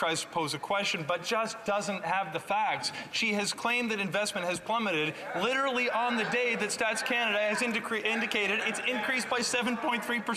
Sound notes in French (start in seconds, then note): 1.2 voix de l'interprète